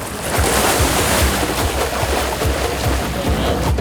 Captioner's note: splashing